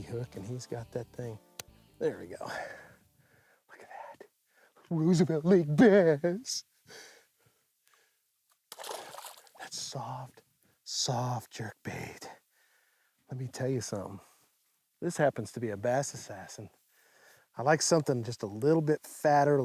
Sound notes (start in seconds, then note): 8.7 splash